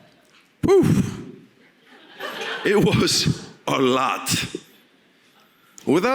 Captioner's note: audience laughing